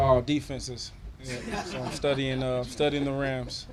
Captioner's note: all laughing